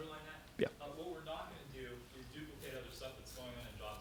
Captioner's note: voiceover